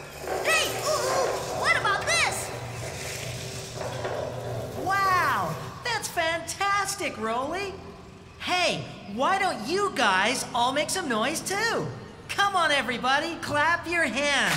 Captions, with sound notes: HEY, OOH-OOH, WHAT ABOUT THIS? ( Roller Rumbling ) WOW! THAT'S FANTASTIC, ROLEY! HEY, WHY DON'T YOU GUYS ALL MAKE SOME NOISE, TOO? COME ON, EVERYBODY, CLAP YOUR HANDS.